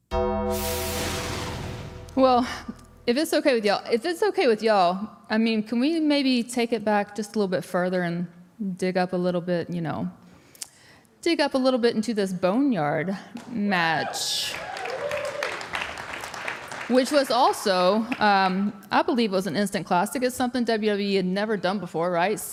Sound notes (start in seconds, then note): 0.1 bell rings; 14.0 audience cheering; 14.4 audience applauding